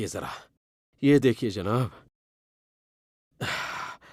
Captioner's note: exhales